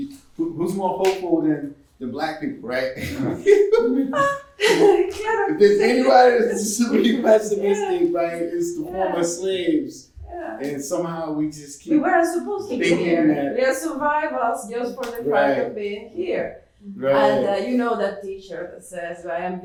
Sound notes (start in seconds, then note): 2.6 laughs